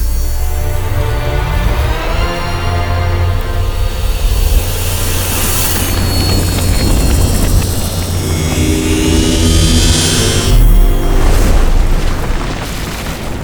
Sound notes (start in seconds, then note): 0.8 music intensifies; 6.4 whirring; 11.1 explosion